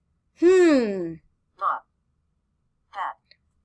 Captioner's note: computer voice